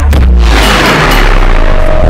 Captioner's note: Bell rings